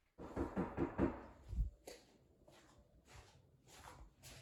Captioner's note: knocking on door